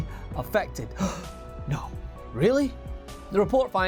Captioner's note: gasp